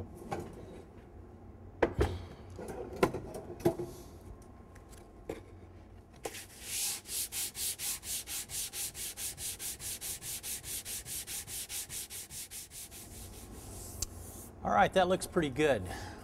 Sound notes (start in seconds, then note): 6.3 sanding sound